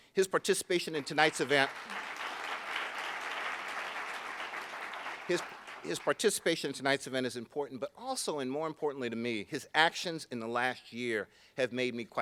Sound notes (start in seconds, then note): 0.8 applauding